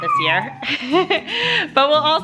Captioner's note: laughing